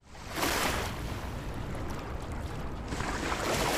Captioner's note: waves splashing ashore